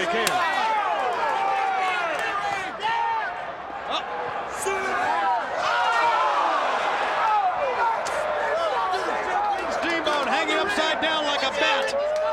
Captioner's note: crowd chatter